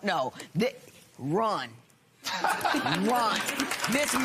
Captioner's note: laughter